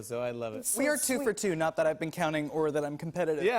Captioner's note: none